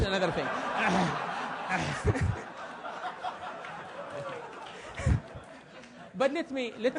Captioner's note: laugh